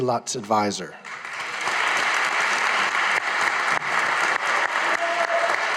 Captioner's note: audience applauding